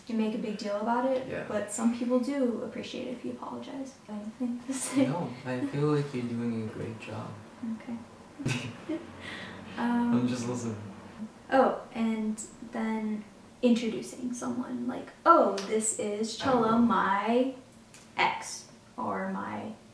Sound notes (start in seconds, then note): 8.4 laughing